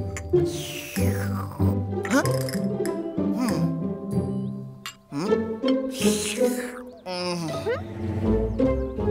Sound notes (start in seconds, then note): 0.4 drinking; 5.9 drinking